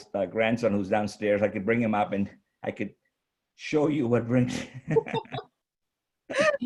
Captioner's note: chuckles